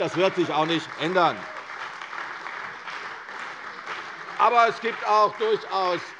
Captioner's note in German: Beifall bei der CDU und dem BÜNDNIS 90/DIE GRÜNEN